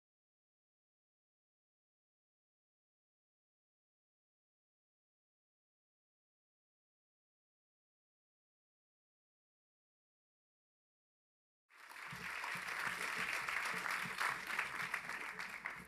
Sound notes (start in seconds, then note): 11.7 applause